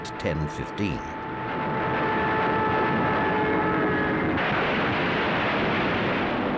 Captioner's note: plane engine roars